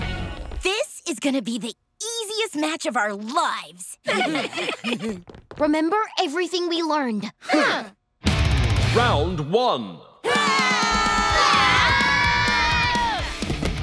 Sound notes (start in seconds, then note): 4.0 laughing; 10.2 screaming